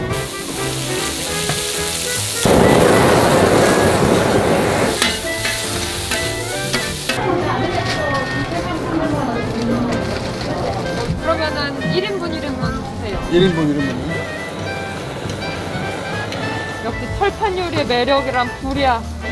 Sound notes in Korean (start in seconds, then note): 0.1 고기 굽는 소리; 2.4 토치 소리